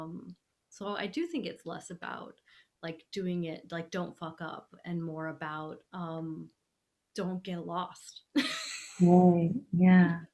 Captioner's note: laughing